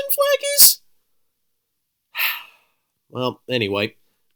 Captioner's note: sigh